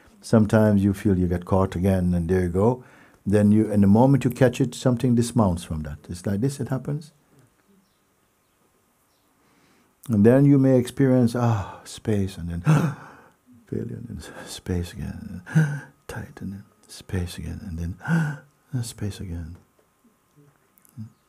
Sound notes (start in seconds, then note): 12.6 gasps; 15.4 gasps; 18.0 gasps